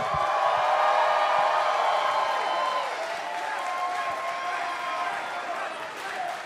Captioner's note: crowd cheering